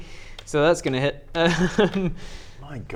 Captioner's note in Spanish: ríe